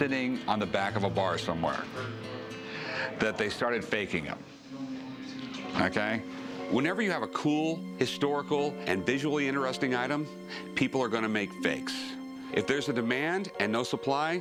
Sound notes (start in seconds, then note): none